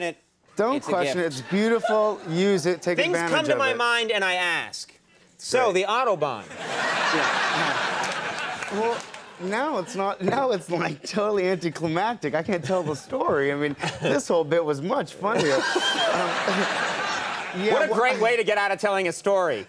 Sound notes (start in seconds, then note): 6.5 audience laughing; 15.3 Conan laughs; 15.3 audience laughing